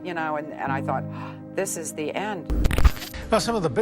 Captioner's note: static sound